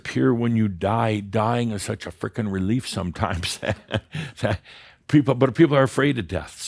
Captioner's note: Adamus chuckles